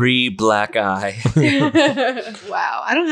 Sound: laughs

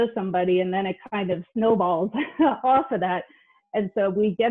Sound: chuckles

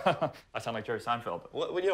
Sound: laughs

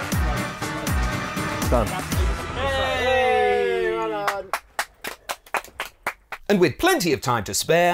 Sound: all cheer

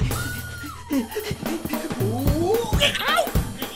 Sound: grunting; panting

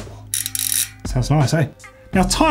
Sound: rotor clicks

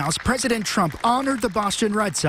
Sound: cheers

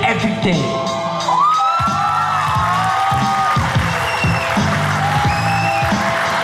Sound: audience cheers

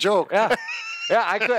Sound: laughing

